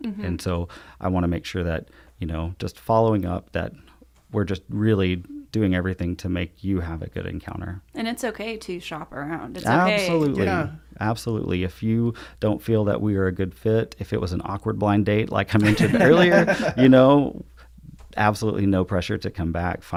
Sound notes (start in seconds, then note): 15.6 laugh